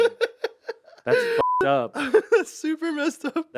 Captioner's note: beep; Anthony laughs